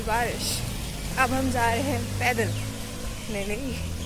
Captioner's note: laughs